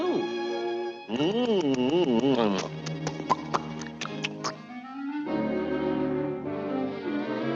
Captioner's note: lips smacking